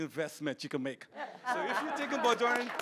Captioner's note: audience applauds